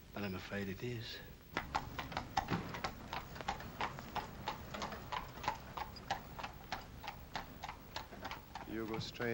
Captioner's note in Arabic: الحوافر تركض بعيدا